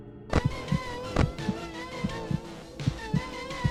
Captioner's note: radio turns on